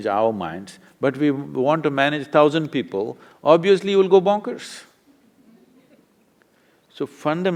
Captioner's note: laughter